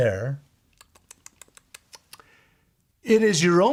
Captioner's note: clicking tongue